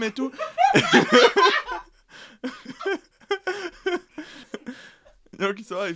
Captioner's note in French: rires